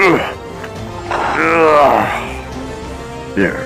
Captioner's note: security Guard groans